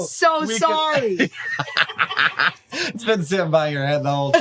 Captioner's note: laughs